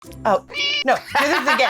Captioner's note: meow